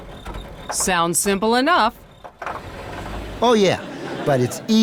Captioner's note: engine sputtering